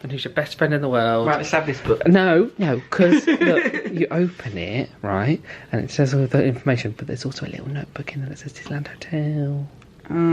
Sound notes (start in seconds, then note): 2.9 laughs